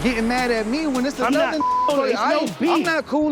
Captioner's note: beep